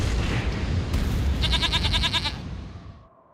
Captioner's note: bleats